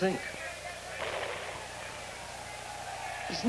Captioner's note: gunshot on soundtrack